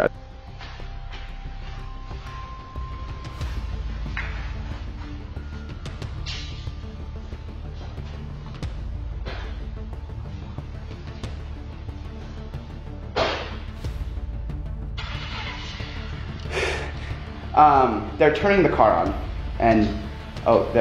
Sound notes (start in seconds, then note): 0.2 suspense music; 11.6 car door closing; 15.0 engine starting